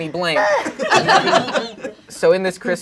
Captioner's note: crowd laughing